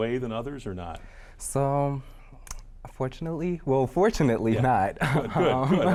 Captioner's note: chuckles